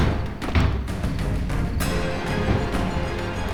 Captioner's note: doors thudding; tense orchestral music